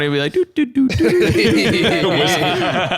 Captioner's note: laughs